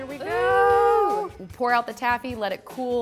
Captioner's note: ooing